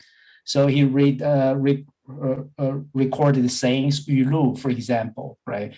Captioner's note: speaking in Mandarin